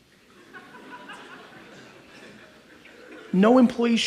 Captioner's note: audience laughs